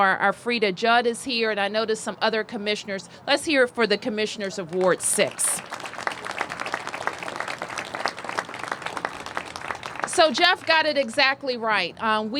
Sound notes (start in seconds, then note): 6.9 applause